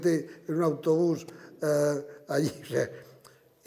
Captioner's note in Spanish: Ríe